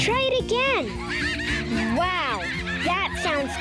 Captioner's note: chimpanzees screaming